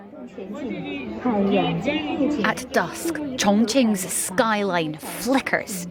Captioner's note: crowd chatter